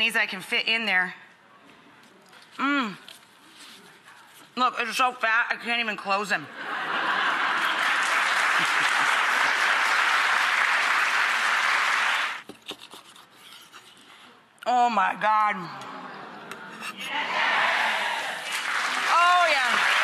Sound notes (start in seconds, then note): 6.5 laughter; 7.5 applause; 12.4 knife scraping; 19.8 cheering